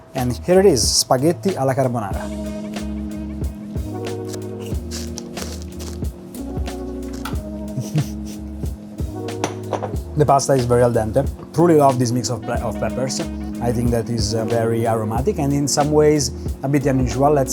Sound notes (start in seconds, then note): 2.7 lively music; 3.9 slurping; 7.6 chuckling